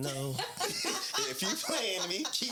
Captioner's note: laughing